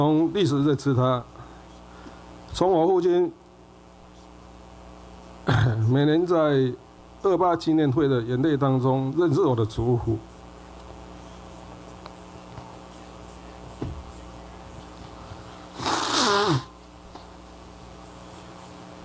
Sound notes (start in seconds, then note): 13.8 sneezing